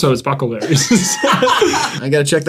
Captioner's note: laugh